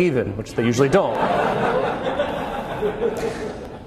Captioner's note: more laughter